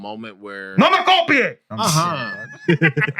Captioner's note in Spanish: Hablando en idioma extranjero